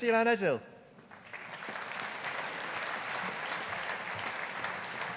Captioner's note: audience applauding